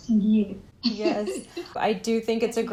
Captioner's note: laughter